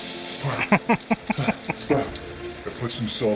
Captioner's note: laughing